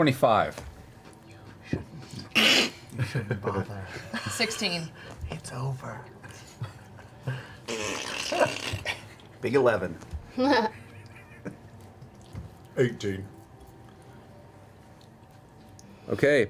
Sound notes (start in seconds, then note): 6.1 choking noise